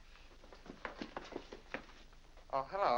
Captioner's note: brisk footsteps down stairs